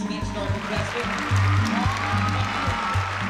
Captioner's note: applause